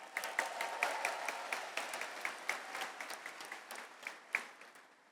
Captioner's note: audience applauds